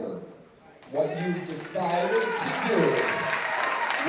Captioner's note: applause